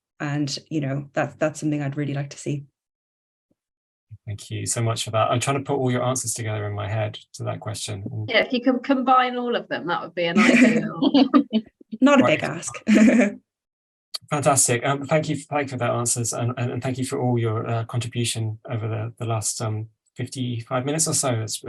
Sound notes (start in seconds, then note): 10.3 laughing